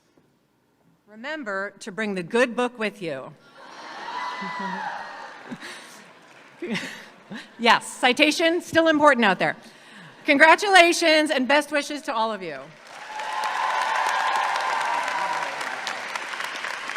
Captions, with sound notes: remember to bring the good book with you. (audience cheers) Yes, citation, still important out there. Congratulations and best wishes to all of you. (audience cheers and applauds)